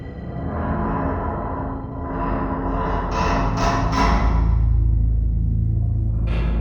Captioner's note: eerie, metallic sound